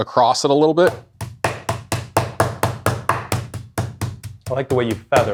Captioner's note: rolling pin thumping